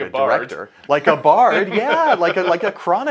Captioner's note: laughs